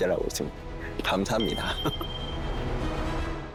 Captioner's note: sound effect: Ding